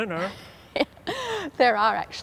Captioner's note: laughs